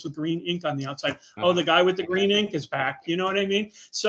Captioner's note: laughing